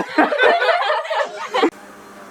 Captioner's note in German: lachen